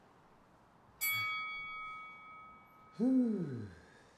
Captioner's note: bell rings; Sam sighs